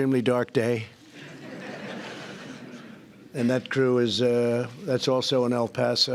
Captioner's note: laughter